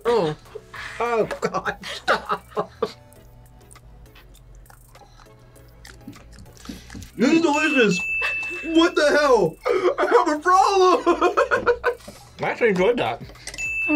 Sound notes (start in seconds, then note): 0.8 laughs; 7.3 bell rings; 10.7 laughs